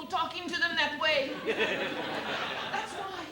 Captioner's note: laughter